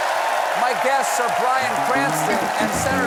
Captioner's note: cheers and applause